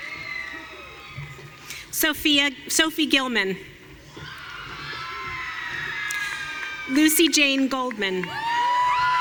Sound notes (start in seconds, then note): 4.4 audience cheering